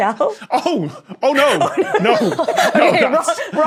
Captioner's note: group laughing